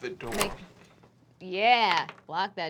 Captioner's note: die rolls